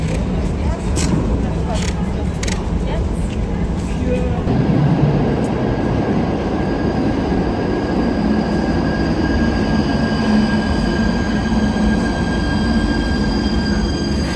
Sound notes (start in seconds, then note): 9.6 suburban trains